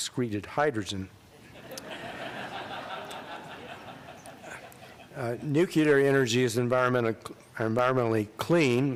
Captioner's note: laughter